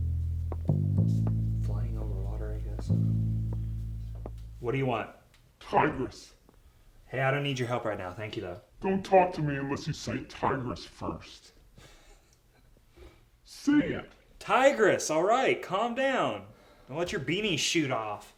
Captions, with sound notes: Flying over water, I guess? [ OMINOUS MUSIC ENDS ] What do you want? Hey I don't need your help right now. Thank you though. [ CHUCKLES ] Tigris. Alright, calm down. Don't let your beanie shoot off.